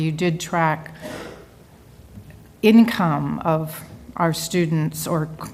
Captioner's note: cough